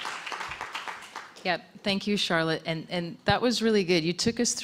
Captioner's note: applause